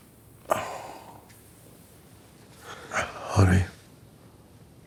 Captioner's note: Tommy groaning